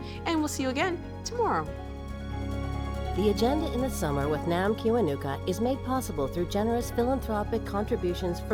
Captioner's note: none